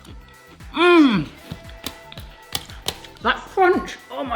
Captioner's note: munching; fist pounding